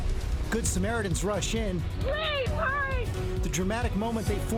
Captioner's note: cheering